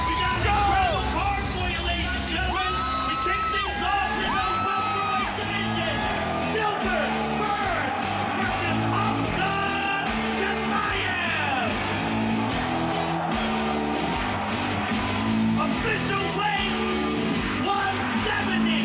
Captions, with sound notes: We've got an incredible card for you, ladies and gentlemen. To kick things off, in the welterweight division, Gilbert Burns versus Khamzat Chimaev. (hard rock music) (audience cheering) - Official weight, 170 for Mr. Chimaev.